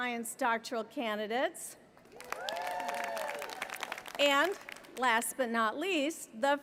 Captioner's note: applause